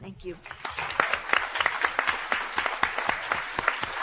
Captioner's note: applause